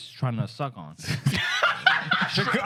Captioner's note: laughter